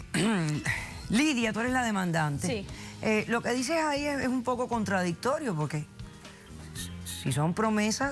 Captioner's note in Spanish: Carraspea